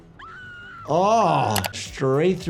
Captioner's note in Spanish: persona gritando; gimiendo